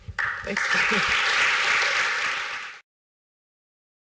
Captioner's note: applause